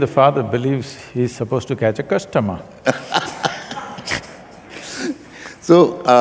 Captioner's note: both laugh